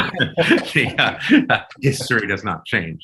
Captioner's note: men laughing